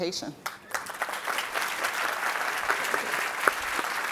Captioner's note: audience clapping